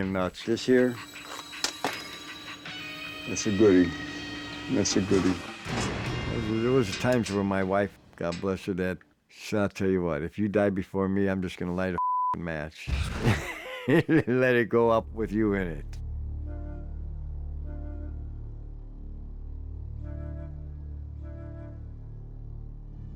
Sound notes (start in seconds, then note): 13.0 laughs; 15.0 dramatic music